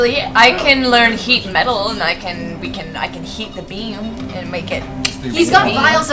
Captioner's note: clicks her tongue